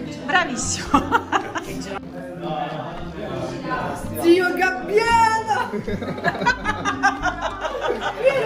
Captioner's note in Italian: Risate